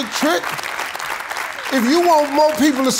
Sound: congregation applause continues

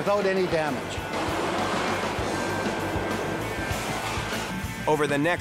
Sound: car engines revving

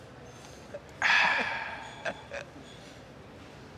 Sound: laughing

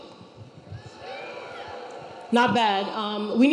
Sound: audience cheering

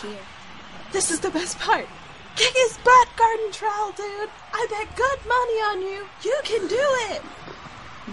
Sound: cheering Loudly

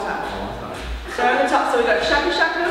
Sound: laughs

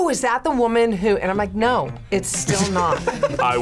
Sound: laughs

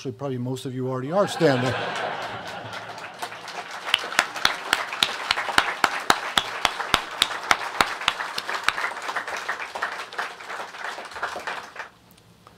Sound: laughter & applause

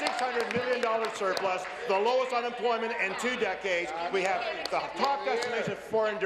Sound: applause

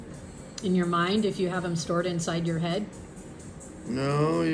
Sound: female voice

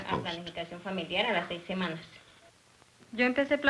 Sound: speaking Spanish

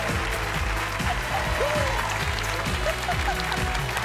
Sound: applause

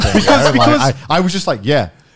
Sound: laughing

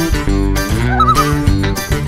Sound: loon calls

